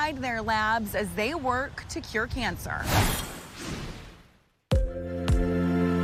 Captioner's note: logo whooshing; gentle music begins